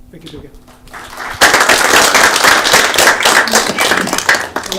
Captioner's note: applause